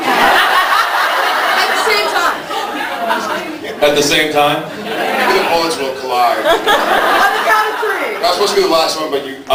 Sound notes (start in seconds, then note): 0.0 laughs; 3.1 laughing; 4.8 sounds of agreement; 6.1 laughs